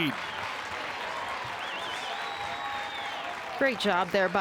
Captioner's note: crowd cheers